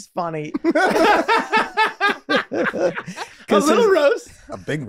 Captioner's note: group laughing